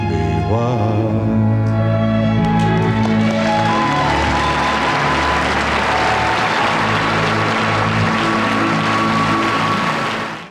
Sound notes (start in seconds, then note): 2.4 audience applauding